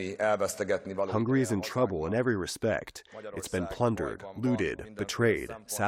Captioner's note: through translator